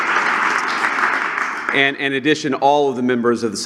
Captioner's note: applause